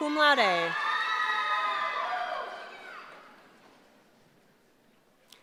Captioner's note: cheering